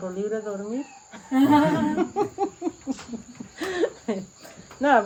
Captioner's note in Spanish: risas